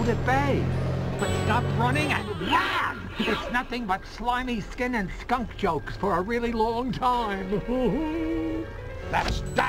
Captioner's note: laughs